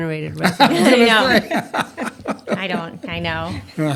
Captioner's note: laughter